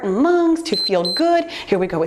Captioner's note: timer beeps